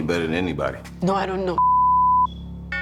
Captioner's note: beep